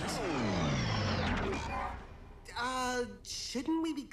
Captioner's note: engine sputters